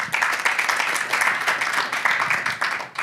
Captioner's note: applause